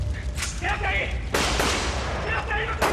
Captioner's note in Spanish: Disparos